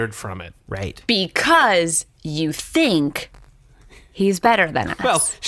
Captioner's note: crushed